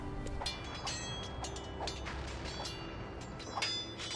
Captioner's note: swords Clanging